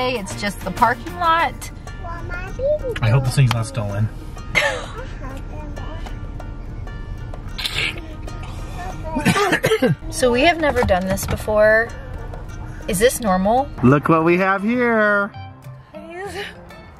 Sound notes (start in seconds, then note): 4.5 laughs